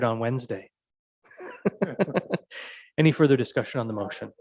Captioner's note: laughs